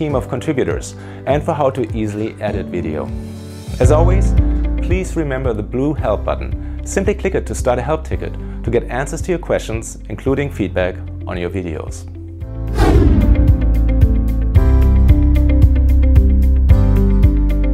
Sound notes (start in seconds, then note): 12.7 swooshing noise; 13.0 soft electronic music